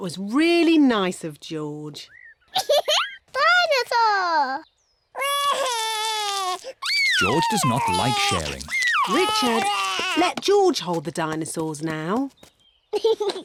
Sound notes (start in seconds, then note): 2.5 giggles; 5.2 cries